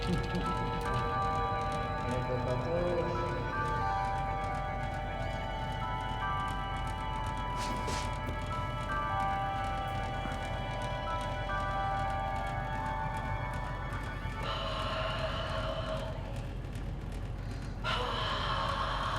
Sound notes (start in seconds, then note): 4.8 rumbling sound; 16.9 whispers